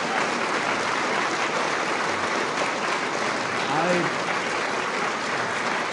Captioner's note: applause